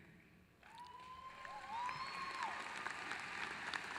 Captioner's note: applause